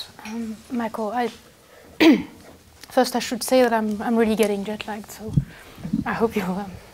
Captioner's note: cough